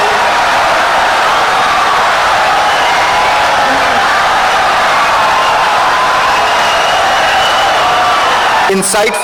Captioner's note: wild applause and cheering for 17 seconds